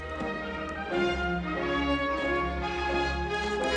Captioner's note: crowd jeering